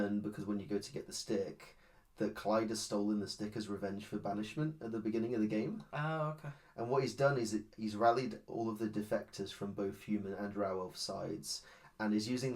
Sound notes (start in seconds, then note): none